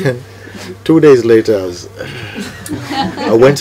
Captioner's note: laughter